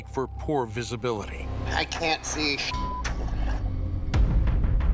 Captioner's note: speaking over radio